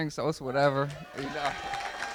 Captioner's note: cheering; applause